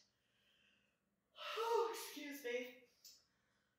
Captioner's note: yawns